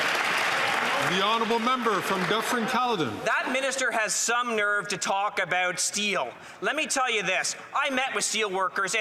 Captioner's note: some Applause